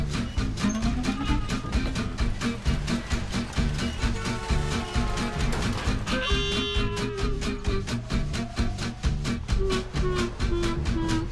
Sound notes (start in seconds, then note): 4.0 car horn honking; 6.3 playful uptempo music